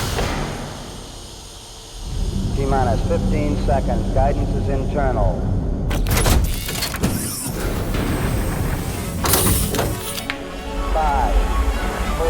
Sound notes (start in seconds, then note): 5.8 mechanical whirring; 7.4 dramatic music